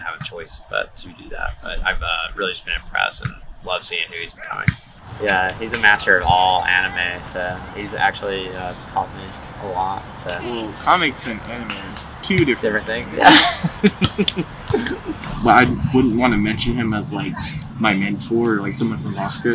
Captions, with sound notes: choice but to do that but I've really just been impressed and loved seeing who he's becoming. He's a master of all anime. He's actually taught me a lot. Comics and anime are two different different things. (laughing) but I wouldn't want to mention him as like my mentor or like someone from foster care,